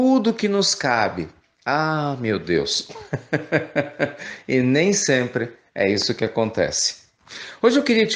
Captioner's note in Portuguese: risos